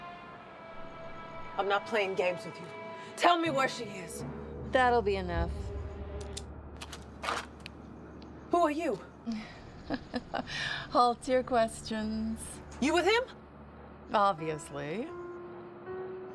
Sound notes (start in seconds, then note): 7.1 gun clicks; 9.6 laughs